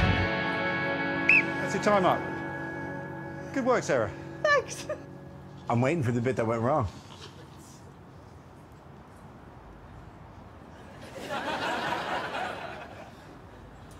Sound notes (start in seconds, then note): 1.2 whistle blows